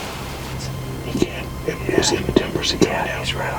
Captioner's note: whispering